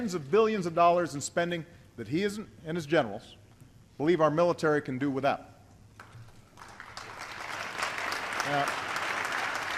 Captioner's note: applause